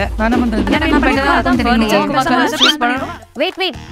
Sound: consistent chatter

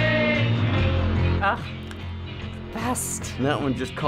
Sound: sighing

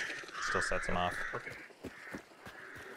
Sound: crows cawing

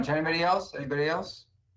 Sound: ~audio distortion~

